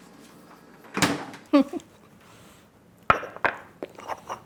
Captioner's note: chuckling